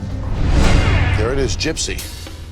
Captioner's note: air whooshing